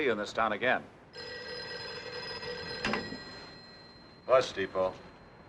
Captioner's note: phone Rings